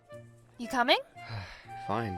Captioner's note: joshua sighs